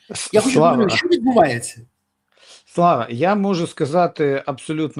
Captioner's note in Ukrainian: сопіння